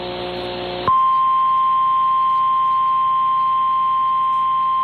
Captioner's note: 1050 HZ tone